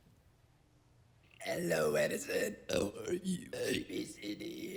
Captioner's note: burp-talking